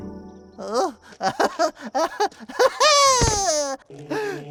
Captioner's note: laughing